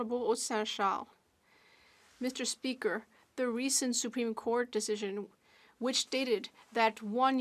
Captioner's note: speaking French